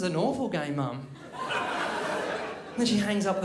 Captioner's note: crowd laughs